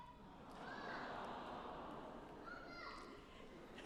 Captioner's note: audience coos; audience laughing